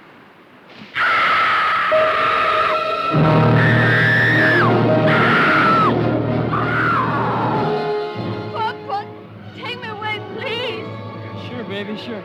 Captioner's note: screaming